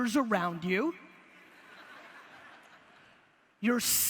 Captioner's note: audience laughter